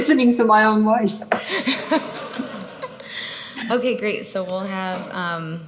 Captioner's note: laughs